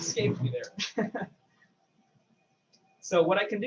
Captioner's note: laughs